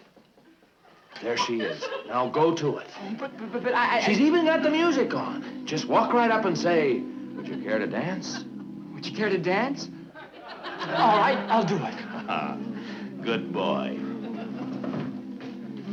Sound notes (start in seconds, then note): 9.6 audience laughing; 13.7 audience chuckling; 14.9 quiet music playing